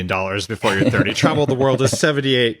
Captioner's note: laughs